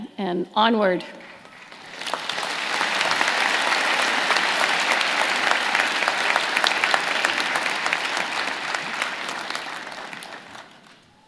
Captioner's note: applause